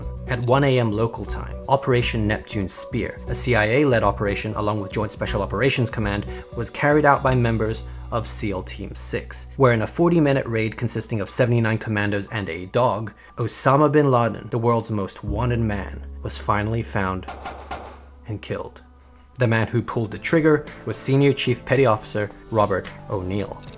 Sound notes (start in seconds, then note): 17.3 gun popping